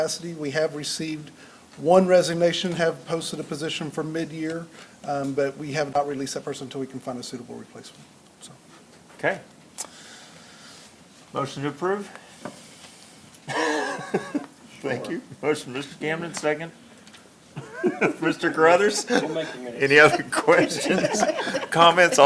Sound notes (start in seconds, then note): 13.4 laughs; 17.5 laughs; 17.6 laughter